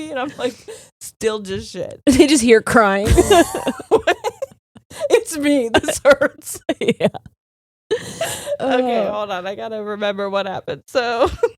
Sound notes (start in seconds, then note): 3.0 both laughing